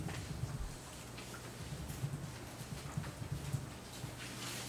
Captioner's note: documents shuffling